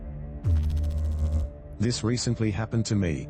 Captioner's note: electrical noise